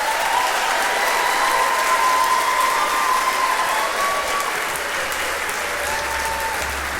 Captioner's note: applause